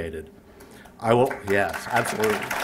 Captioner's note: applause